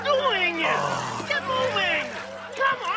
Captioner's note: sighing